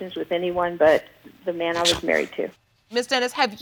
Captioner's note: scoffs